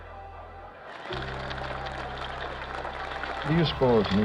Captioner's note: cheering and applauding